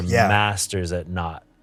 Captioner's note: exhales